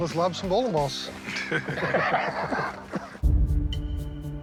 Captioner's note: laughs